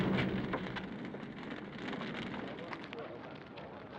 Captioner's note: fire crackling